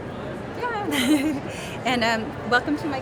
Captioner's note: laughing